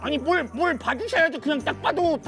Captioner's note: agitated